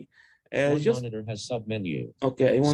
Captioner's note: computer voice in the background